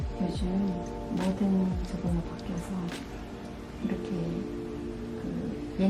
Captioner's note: speaks in foreign language